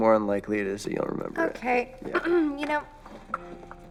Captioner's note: clears throat